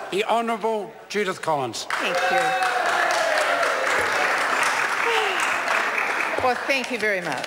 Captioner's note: members applaud